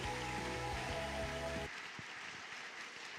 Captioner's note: applause